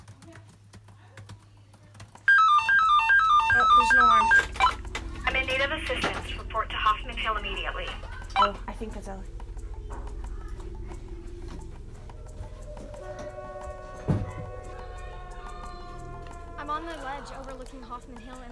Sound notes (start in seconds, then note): 2.2 alarm rings; 11.6 people chattering